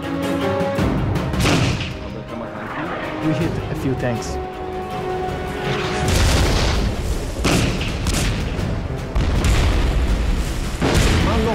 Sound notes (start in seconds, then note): 0.1 dramatic music; 6.0 explosions booming